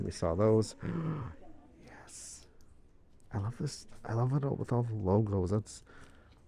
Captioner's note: gasp